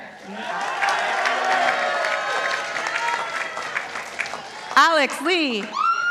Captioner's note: participants applauding